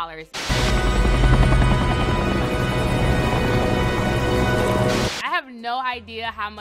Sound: helicopter blades whirring

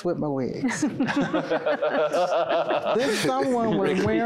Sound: laughter

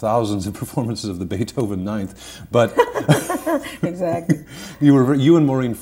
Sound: both laughing

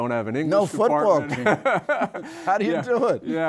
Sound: laughter

